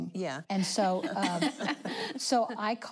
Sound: laughing

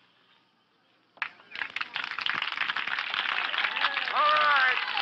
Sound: crowd applauding

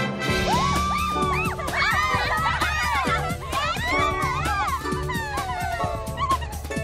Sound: girls cheering

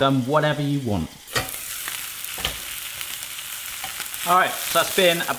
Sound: sizzling

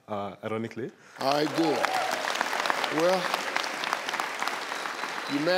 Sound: audience claps

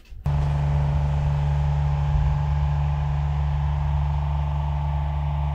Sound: machine engine rumbling

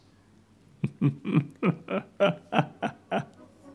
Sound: evil laugh

